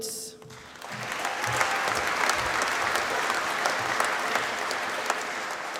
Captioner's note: applause